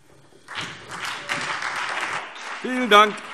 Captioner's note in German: Beifall SPD, CDU, BÜNDNIS 90/DIE GRÜNEN und Freie Demokraten